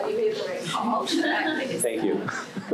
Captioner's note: laughs